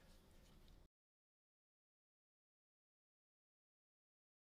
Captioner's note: silence